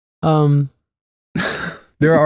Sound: chuckle

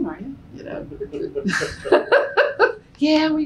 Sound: laughter

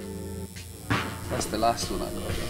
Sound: electric razor buzzing

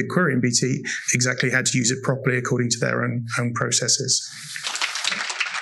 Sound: applause

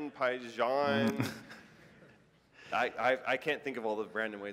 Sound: laughter

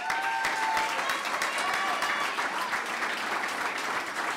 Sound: clapping

